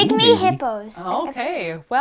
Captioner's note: boink